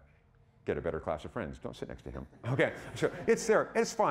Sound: audience laughing

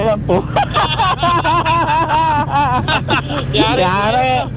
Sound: group laughing

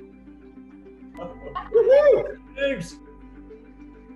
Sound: cheering

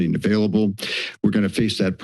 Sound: inhales

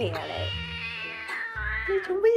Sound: more angry meowing

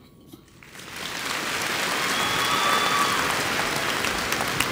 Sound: audience applauds

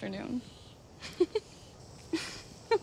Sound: laughs

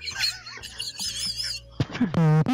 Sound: Muttley laugh

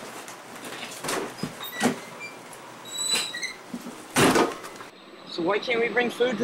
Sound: door clicking open and closed

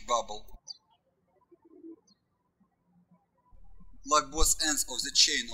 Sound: birds chirping

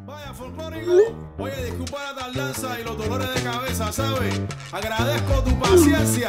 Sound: phone chiming; upbeat music; phone chiming; phone chiming; upbeat music

